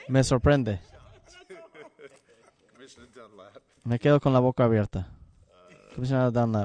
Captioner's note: laughter